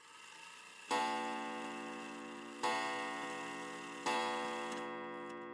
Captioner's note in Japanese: ボンボン時計の音